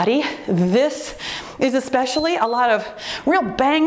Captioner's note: timer beeps